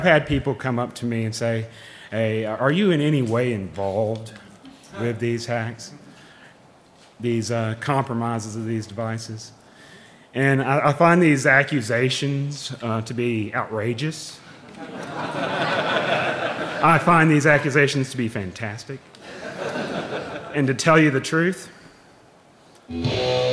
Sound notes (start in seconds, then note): 12.4 laughing; 19.4 laughing